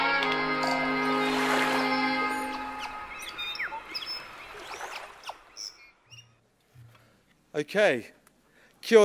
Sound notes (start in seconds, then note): 0.5 seagulls chirping; 0.9 waves crashing